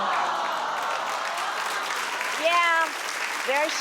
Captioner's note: audience applauds